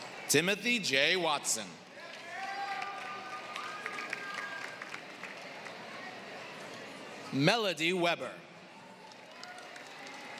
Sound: applause

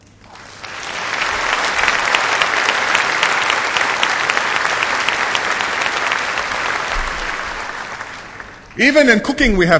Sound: applause

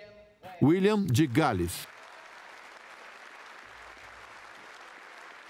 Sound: voiceover; applause

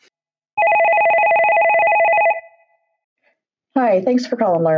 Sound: telephone rings

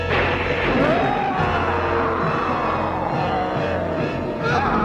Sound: old hag howls

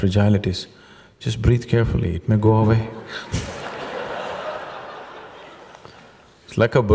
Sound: laughter

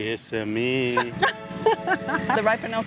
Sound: laughs

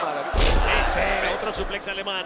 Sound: laugh

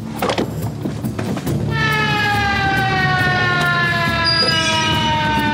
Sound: sirens wail

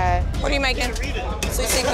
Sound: loud chatter

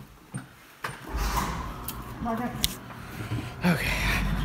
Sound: garage door opens

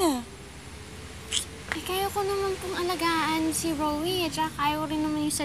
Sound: clicks tongue

